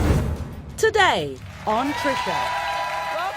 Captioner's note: audience cheering